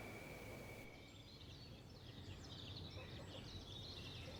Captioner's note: birds and insects